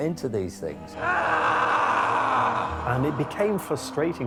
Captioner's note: screaming